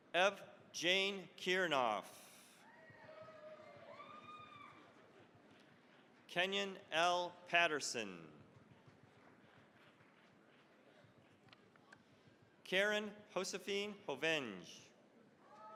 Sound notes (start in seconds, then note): 2.6 cheering, applause; 8.4 applause